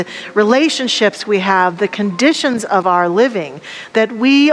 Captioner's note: none